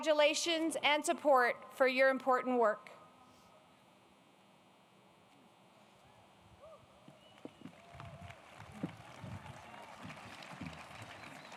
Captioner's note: applause